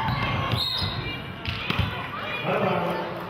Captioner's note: whistle blows